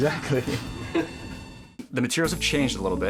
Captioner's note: laughing